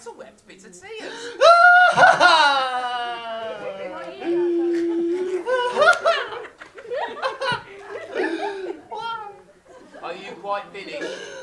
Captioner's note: even louder weeping